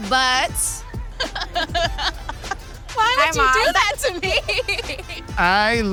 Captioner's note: laughs